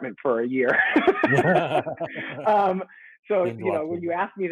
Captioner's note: light laughter